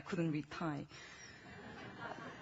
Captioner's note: laughing